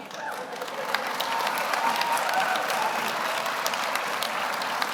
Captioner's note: audience applauds